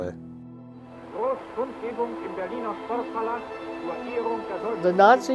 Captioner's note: announcer speaking in foreign language